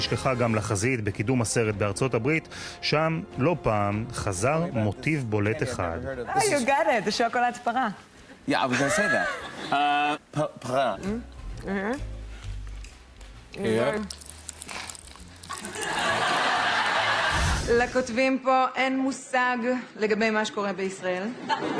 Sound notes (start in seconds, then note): 13.1 crackling